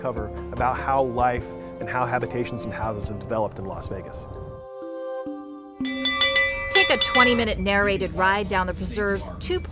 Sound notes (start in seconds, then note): 5.8 bell ringing